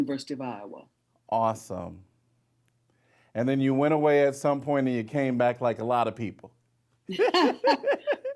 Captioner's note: laughing